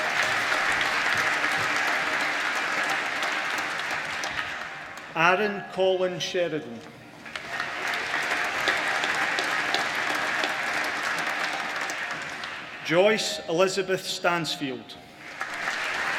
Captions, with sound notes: (APPLAUSE) Aaron Colin Sheridan (APPLAUSE) Jois Elizabeth Stansfield